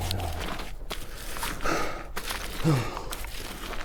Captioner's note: stones clattering